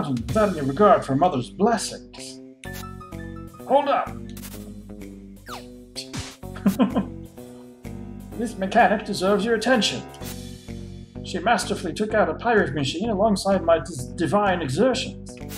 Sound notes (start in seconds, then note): 6.6 laughs